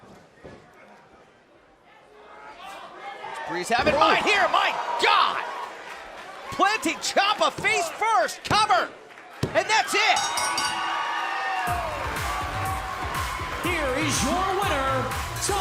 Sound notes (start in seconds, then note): 0.2 crowd chatter; 10.1 bell ringing; 12.0 crowd cheering